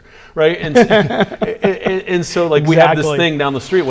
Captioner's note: laughs